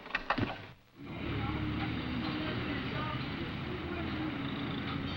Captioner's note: traffic humming